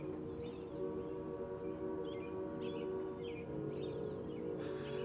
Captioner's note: birds chirping